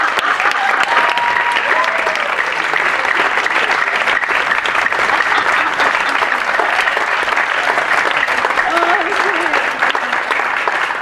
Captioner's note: applause